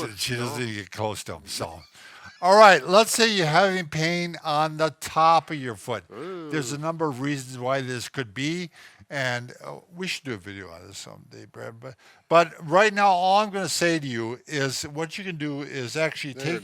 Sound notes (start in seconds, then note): 1.9 wheezes; 6.1 groans